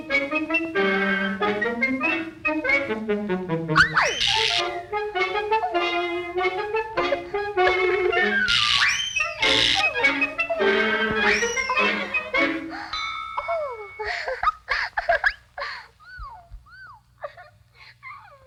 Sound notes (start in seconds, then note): 0.1 plodding music; 5.6 Betty giggles; 5.6 plodding music; 10.3 Betty cooing; 10.3 plodding music; 12.9 bell dings; 13.3 giggling